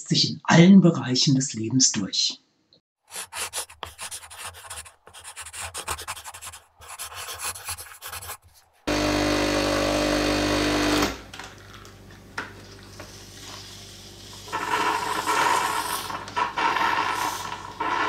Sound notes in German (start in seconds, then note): 3.0 Schreibgeräusche; 8.8 lautes Geräusch der Espressomaschinen-Pumpe; 14.5 Fauchendes Geräusch der Brüheinheit